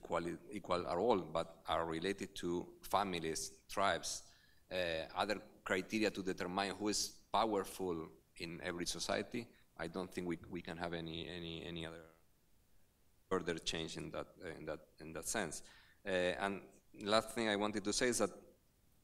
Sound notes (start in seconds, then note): none